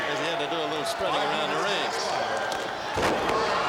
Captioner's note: crowd cheering